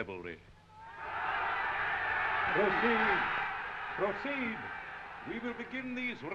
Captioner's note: crowd cheering